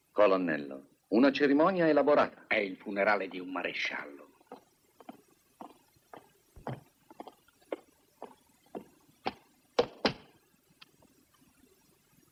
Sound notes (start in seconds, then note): 3.2 whispers; 9.8 stamps floor